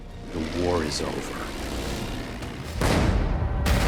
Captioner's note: engines whirring; dramatic music; cannon fire